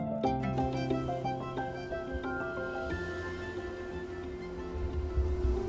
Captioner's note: pottery wheel humming